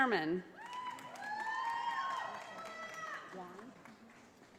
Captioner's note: audience applauding